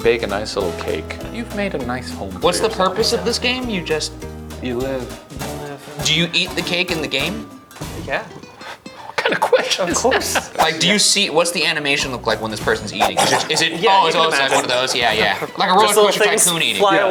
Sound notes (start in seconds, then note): 12.9 snorting